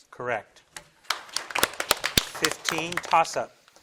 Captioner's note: audience applauding